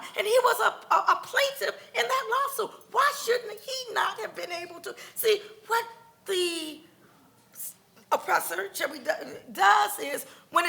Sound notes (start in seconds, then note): none